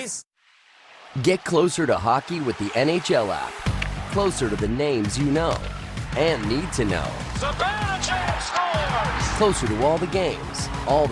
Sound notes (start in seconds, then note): 8.6 announcer commentating; 8.6 crowd cheers